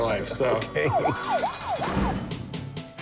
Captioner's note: police siren wailing